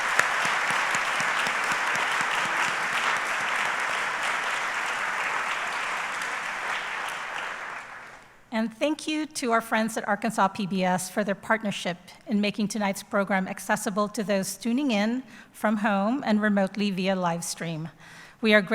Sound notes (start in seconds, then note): 3.2 applause